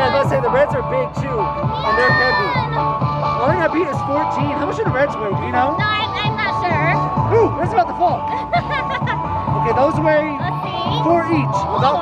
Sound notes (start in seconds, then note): 8.2 laughing